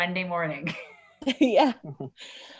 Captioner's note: laughing